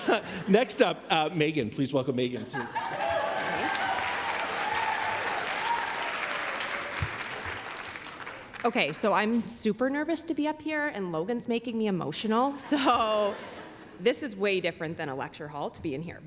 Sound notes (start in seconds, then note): 2.8 applause, cheering